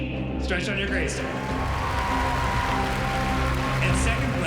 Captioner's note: cheering and applause